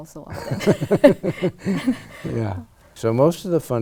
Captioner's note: laughs